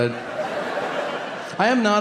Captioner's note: audience laughing